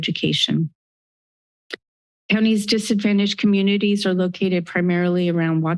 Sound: click sound

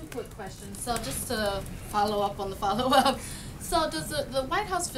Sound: laughs

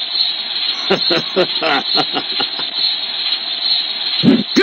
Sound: laughing

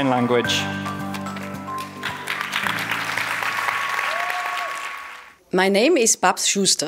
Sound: applause

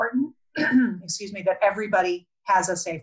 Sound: clears throat

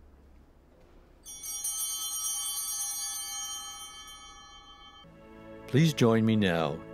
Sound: chimes ringing

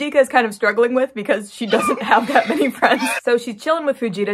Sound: crying noises; laughing

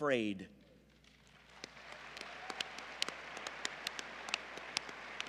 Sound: applause

